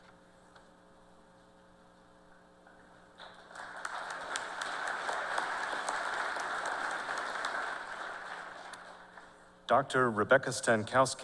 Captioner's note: applause